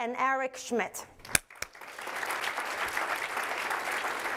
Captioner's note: applause